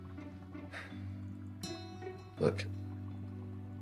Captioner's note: gentle music; Oliver sighing